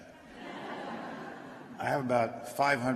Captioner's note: laughter